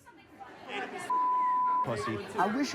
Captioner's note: beep